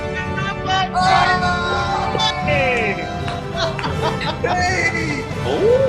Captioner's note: group cheers